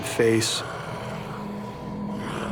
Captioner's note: growling